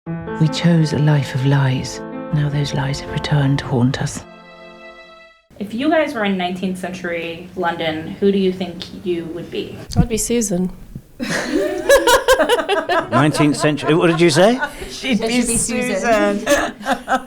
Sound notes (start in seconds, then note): 11.2 laughing